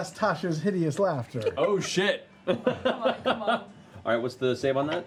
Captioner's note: laughs